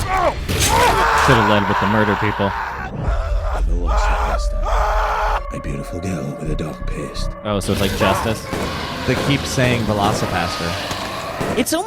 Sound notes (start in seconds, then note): 0.0 shouting and screaming; 3.4 screaming; 4.6 pastor in movie speaks